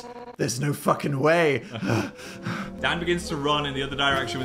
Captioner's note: breathes heavy